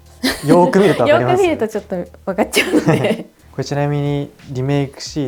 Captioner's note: laughs